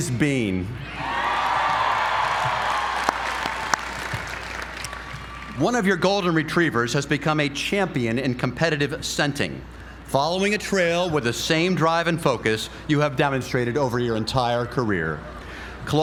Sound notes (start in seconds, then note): 1.0 applause